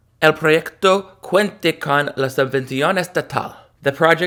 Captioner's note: speaking in Spanish